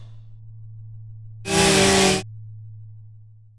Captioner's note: ravenous chainsaw like eating noise